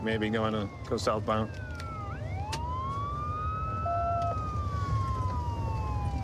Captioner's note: sirens wailing